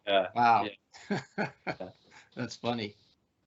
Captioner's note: laughing